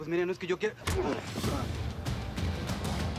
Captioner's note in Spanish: puñetazo